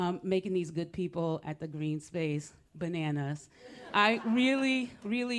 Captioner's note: laughter